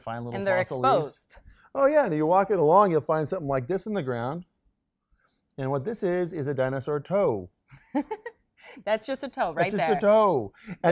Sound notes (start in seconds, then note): 7.9 laughs